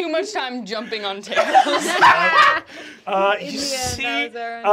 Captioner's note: laughing